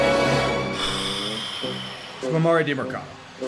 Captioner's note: very long sigh